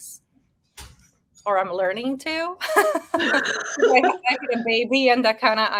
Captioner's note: women laughing